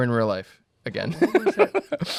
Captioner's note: laughs